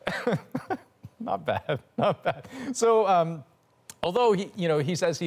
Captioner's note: laughter